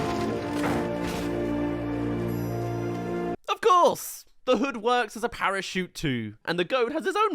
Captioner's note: crash